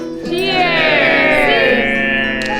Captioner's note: crowd